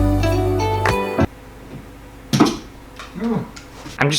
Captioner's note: thud